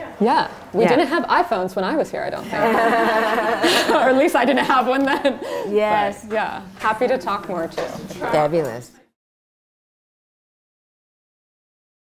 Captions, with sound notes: Yeah. We didn't have iPhones when I was here, I don't think. [LAUGHTER] Or at least I didn't have one then. Yes. But yeah, happy to talk more, too. Fabulous.